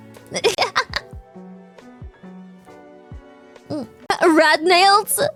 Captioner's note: laughs